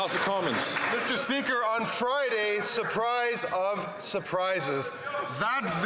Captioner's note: some Applause